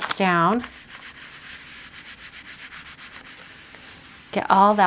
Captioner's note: plastic scratching